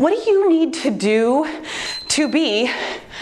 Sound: timer beeps

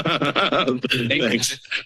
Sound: laughter

